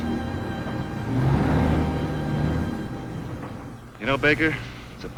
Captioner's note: car engine revving